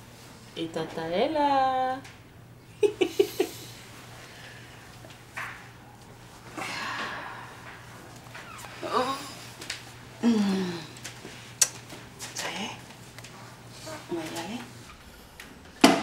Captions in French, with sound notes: Et tata est là! (rire) Ça y est? Mon nané.